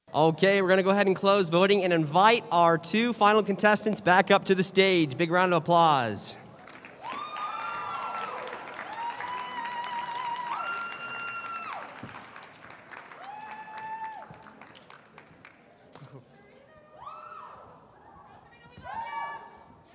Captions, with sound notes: OK, we're going to go ahead and close voting and invite our two final contestants back up to the stage. Big round of applause. [APPLAUSE] [CHEERING]